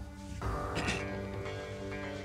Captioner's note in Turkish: Öksürüyor